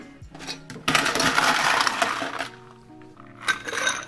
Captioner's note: ice clinking